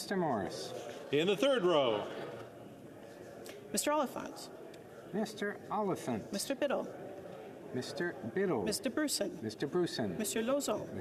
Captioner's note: calling of recorded vote